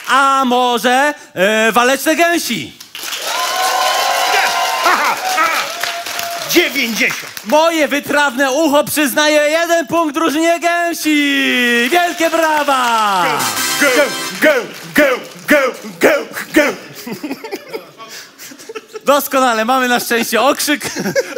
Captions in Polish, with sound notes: A może Waleczne Gęsi? [OKLASKI] Moje wytrawne ucho przyznaje jeden punkt drużynie Gęsi. Wielkie brawa. - Gę, gę, gę, gę. - Doskonale, mamy na szczęście okrzyk.